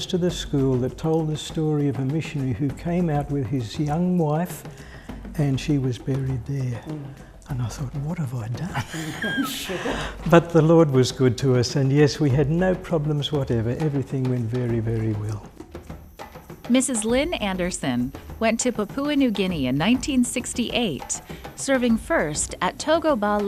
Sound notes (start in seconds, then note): 8.6 laughs